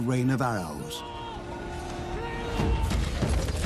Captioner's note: shouts